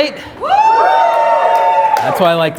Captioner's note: applause